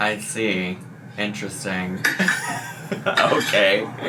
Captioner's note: laughs